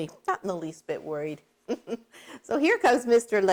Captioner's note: laughs